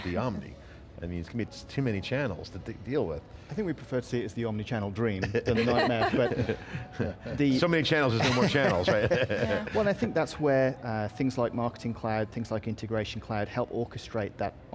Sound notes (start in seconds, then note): 5.3 group laughs